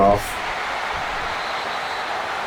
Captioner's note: crowd Noises